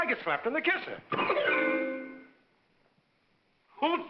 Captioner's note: whimsical music; thump